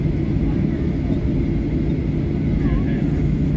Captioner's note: none